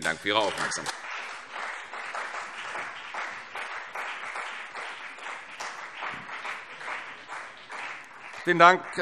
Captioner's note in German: Beifall CDU und BÜNDNIS 90/DIE GRÜNEN